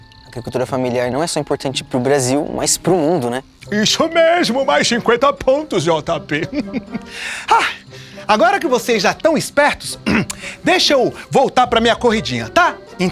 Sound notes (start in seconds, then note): 6.2 Chico laughs; 7.0 sigh; 10.0 Chico clears his throat